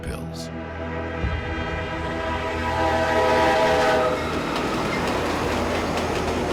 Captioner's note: train horn blaring